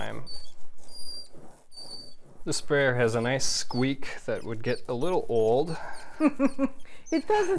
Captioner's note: squeaking